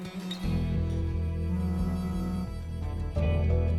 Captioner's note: phone vibrating